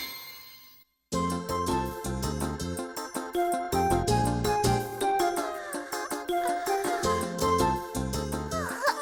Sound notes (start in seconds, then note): 1.1 upbeat music; 5.4 yawning